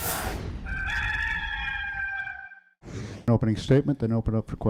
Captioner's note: cock crows